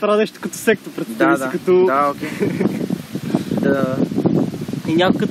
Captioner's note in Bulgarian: се засмива